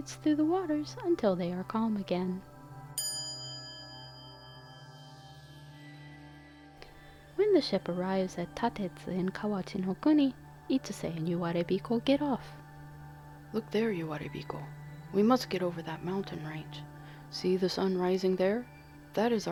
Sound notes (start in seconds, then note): 2.9 quiet chime